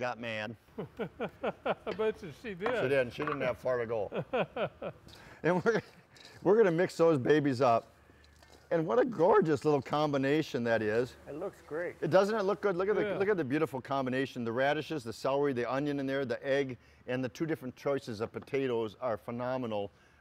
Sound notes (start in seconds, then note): 0.8 laughs; 3.9 laughs